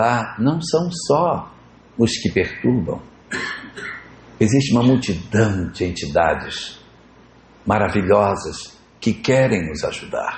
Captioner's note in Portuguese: limpando a garganta